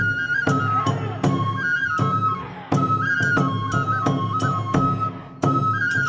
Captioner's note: dancers chanting in foreign language